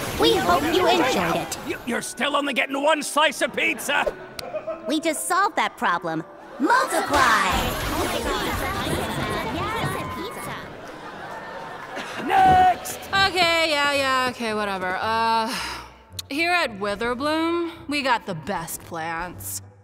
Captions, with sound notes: We hope you enjoyed it- You still only get one slice of pizza. We just solved that problem, MULTIPY! [chatter] Next! Okay, yeah yeah, okay whatever. Uh. Here at Witherbloom we got the BEST plants.